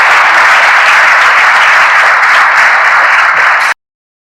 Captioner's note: audience applause